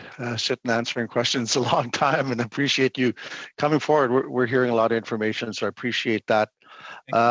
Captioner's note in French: voix de l'interprète